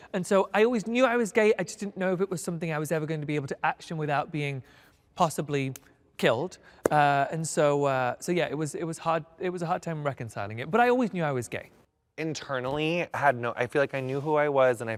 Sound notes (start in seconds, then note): none